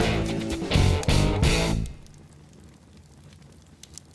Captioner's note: fire crackling